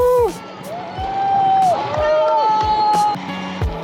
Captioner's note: cheering